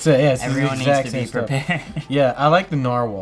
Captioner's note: laughs